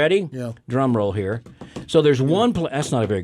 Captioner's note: hands tapping rhythmically